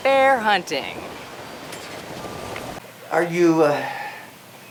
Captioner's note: wind whooshing